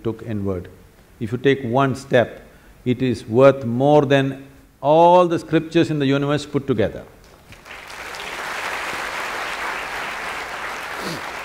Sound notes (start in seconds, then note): 7.2 applause